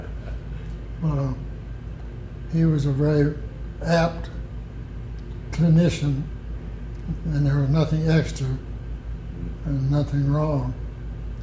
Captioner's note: laughter